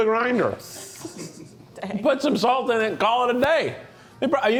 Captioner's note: chuckles